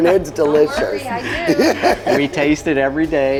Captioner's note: laughing